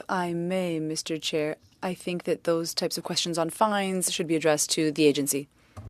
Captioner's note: speaking French